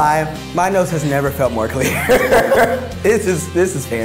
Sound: laughing

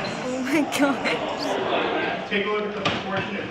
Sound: students murmur in disbelief

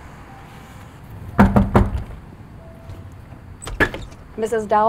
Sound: door knocks

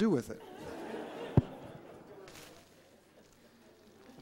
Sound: laughter

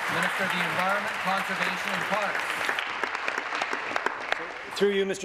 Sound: applause

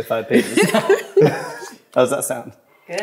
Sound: everyone laughs

